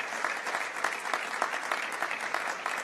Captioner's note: applause